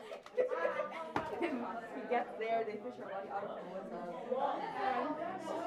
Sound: people chattering

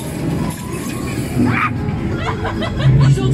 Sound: yells

